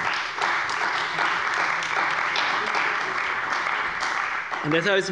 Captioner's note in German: Beifall bei dem BÜNDNIS 90/DIE GRÜNEN und der CDU